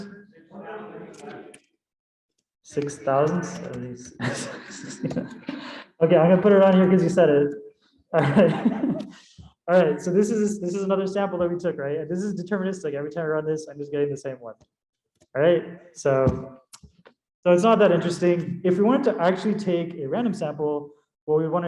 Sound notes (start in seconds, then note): 4.1 laughter